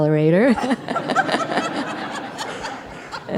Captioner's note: laughter